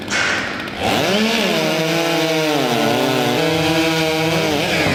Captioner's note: chainsaw engines rev